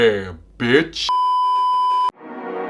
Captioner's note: beeeeeeeeeeeep